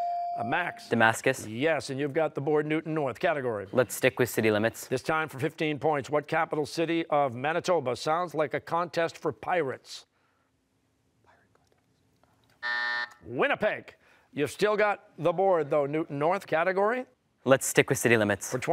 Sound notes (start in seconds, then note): 12.6 buzzer